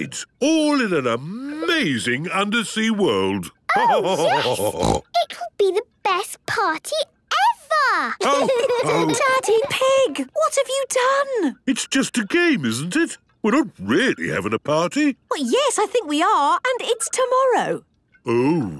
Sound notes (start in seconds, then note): 3.5 laughter and snorting; 8.2 laughter